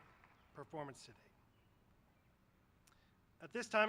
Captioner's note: applause